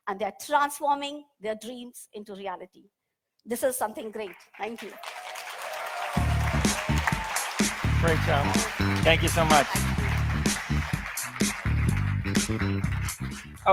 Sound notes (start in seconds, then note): 5.4 audience applauds; 5.4 audience cheers; 7.1 upbeat music